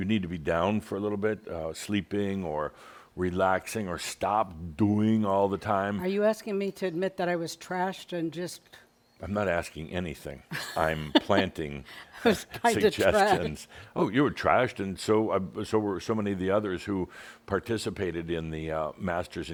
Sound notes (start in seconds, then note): 10.5 laughs; 12.2 chuckling